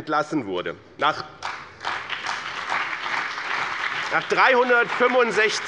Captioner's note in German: Beifall